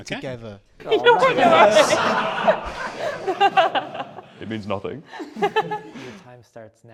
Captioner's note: laughter